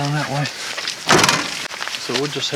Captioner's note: trunk clicks